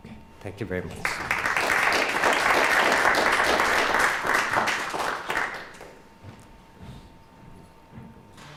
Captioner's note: clapping